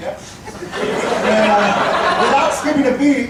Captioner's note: audience laughing